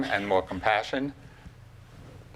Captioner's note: none